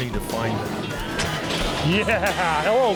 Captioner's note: garage door opening